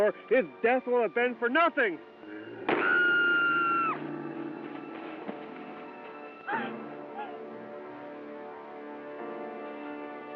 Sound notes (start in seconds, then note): 2.7 screaming; 3.3 growling; 6.9 dramatic piano music